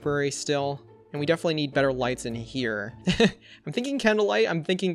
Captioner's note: laughs